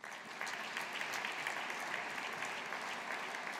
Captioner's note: audience applauding